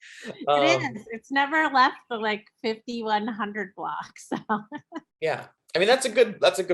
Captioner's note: chuckles; chuckles